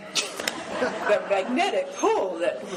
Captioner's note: laughing